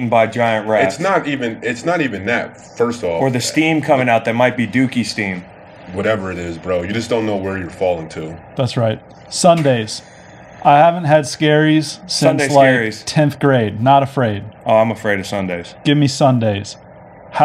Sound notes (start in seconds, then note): none